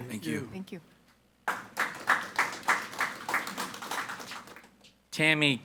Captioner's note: people clapping